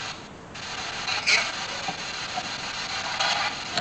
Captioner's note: radio "im here"